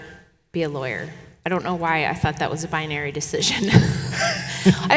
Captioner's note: chuckles